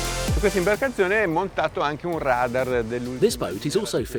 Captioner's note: speaking in foreign language